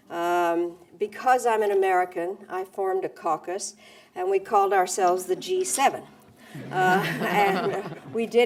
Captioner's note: laughter